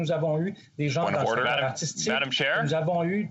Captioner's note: speaking french